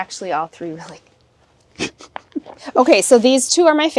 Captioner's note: chuckling